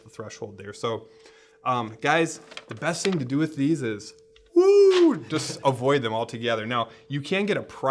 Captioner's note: whew